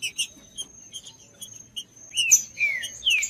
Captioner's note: trinca ferro cantando